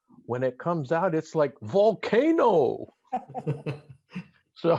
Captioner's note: laughs